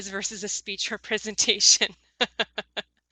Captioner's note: laughs